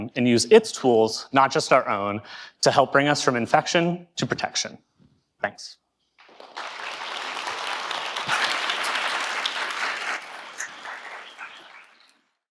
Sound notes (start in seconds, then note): 6.2 people clapping